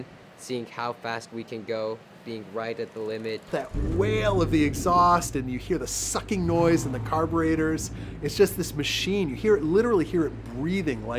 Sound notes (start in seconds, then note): 3.6 engine turn on; 7.6 engine rev